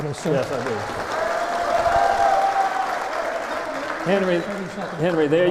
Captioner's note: applause